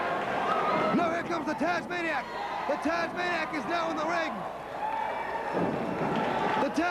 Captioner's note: crowd chattering